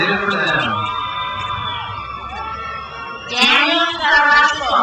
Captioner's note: crowd cheers